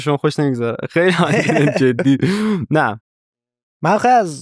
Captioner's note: laughs